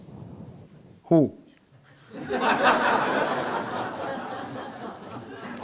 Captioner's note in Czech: smích